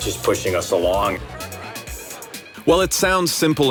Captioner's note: crowd murmuring